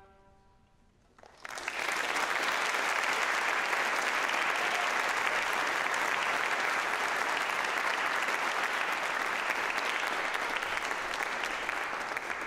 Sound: applause

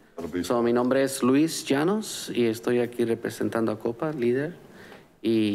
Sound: conversing in foreign

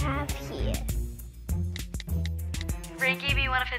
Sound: phone typing

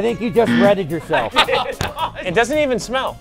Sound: buzzer

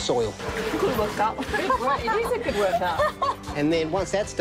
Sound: laughs

